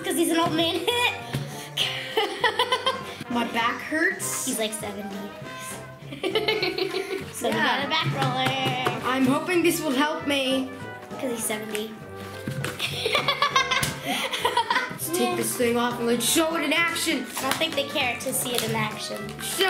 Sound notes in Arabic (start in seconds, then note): 1.8 يضحك; 6.1 يضحك; 6.6 الربت; 12.8 يضحك